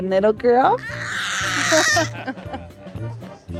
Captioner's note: baby crying